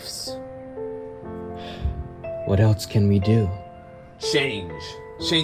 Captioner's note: sighs